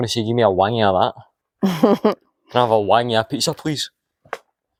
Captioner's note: laughter